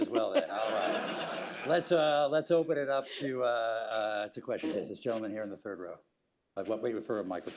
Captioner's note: laughter